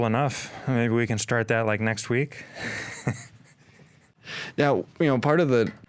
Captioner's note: both chuckling